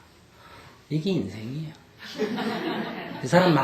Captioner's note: audience Laughter